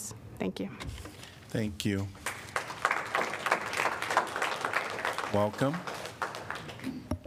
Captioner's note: applause